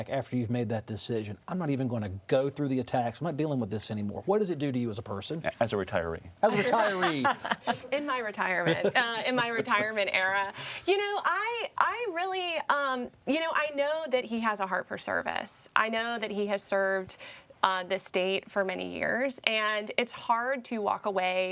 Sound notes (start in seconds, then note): 7.8 pat; 10.1 laughs